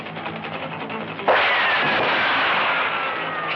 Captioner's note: gunshots; bullets whistling